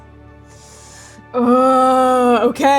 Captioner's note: inhaling deeply